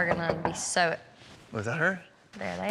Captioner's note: knock on door